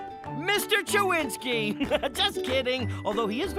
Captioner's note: chuckling